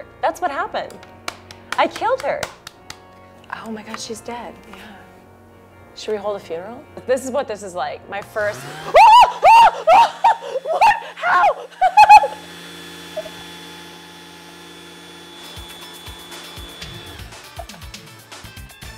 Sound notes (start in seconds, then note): 8.5 whirring; 8.5 yelling; 15.6 upbeat music